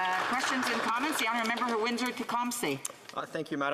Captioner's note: some Applause